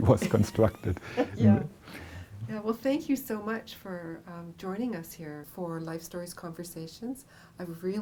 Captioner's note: laughter